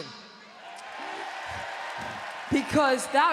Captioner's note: audience cheering